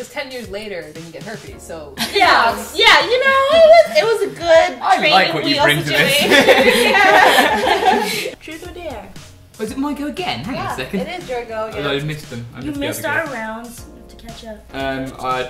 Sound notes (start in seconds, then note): 6.0 laughter